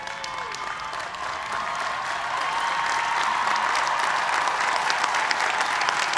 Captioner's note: cheers and applause